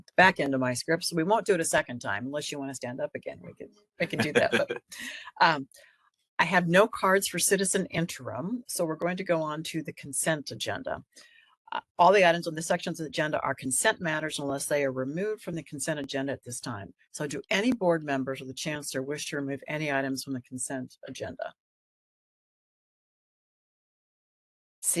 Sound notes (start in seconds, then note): 4.0 laughing